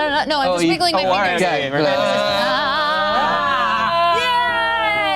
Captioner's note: group cheers